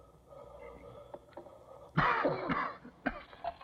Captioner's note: coughs